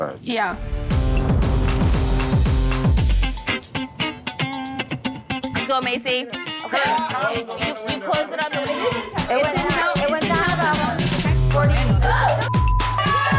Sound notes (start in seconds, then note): 1.5 upbeat funky music; 5.6 party chatter; 12.4 beep; 12.8 group cheering